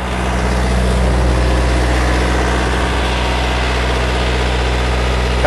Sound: generator motor running

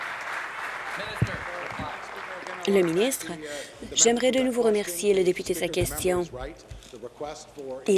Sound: applause

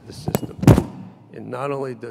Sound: loud shuffling of microphone

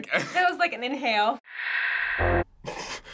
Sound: static; snickering

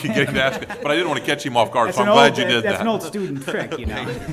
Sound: laughing

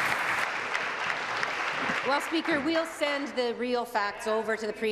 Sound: applause

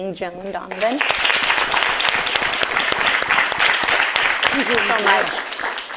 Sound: audience claps

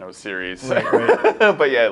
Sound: laughs

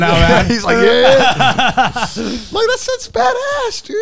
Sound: laughing

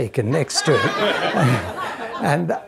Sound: audience laughing

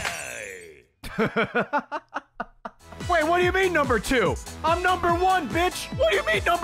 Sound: laughs

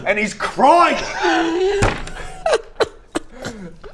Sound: insensitive hysterics

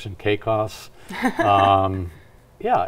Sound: laughs

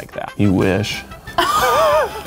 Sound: laughs

